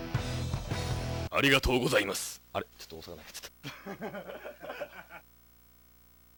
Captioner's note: staff laughter